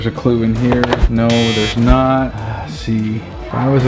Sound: buzzer sounding

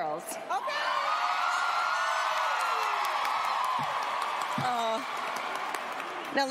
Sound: cheering

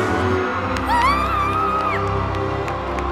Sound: cheers

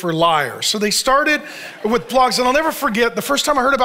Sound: audience laughs

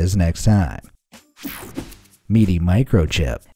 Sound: image whooshing

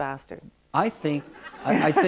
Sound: laughter

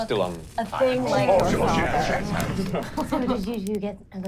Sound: sizzling

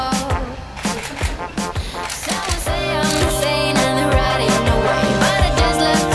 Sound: camera shutter clicking; upbeat music

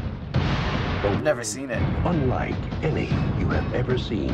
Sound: voice-over

